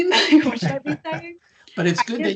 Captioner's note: laughing